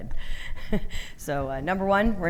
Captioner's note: chuckling